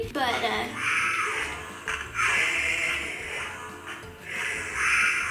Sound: growling noises from toy

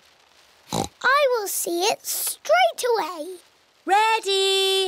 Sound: oinks

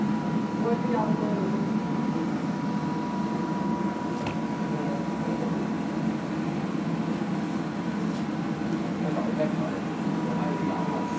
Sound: ambient kitchen fans

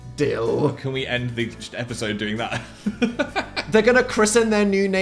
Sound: laughs

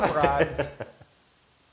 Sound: laugh

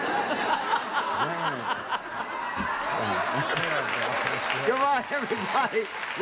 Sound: laughing

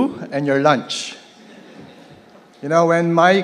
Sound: laughs

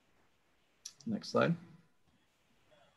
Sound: clicking

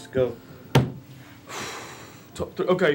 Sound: deep breath

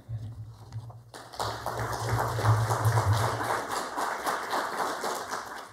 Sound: applause

